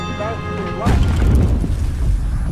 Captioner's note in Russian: колокольчик